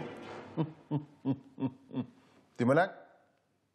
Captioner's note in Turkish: Gülme sesi